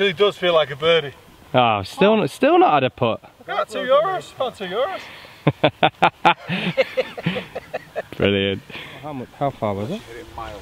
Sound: laughs

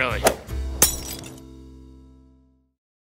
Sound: whooshes; glass Shatters

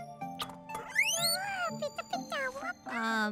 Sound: orb chirping

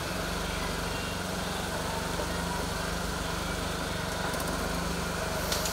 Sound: motor humming, faint music

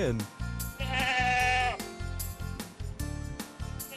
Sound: goat makes sound

